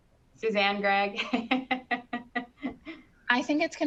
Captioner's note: laughing